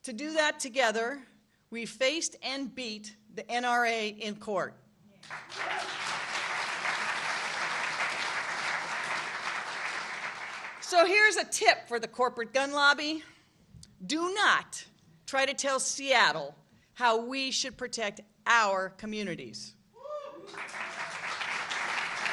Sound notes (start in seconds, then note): 10.4 applause